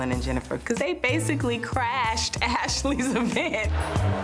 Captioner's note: laughs